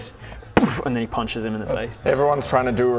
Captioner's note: boof